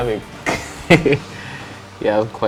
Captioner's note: laughs